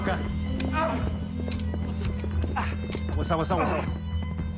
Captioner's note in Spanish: quejidos